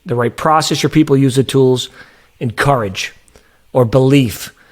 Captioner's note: none